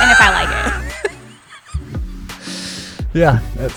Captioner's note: laughter